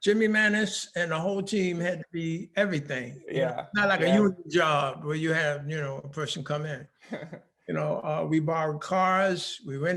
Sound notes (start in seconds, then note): 7.0 laughing